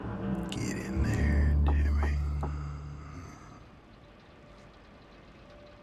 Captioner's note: hand knocking